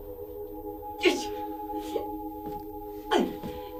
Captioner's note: crying